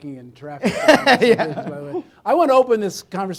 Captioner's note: laughing